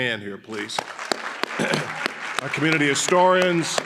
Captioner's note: audience applauding